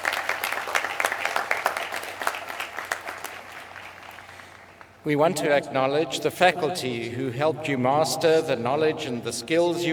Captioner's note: applause